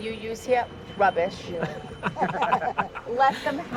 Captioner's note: laughing